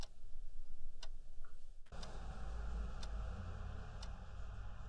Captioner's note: clock ticking